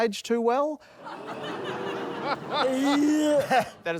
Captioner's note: audience gasps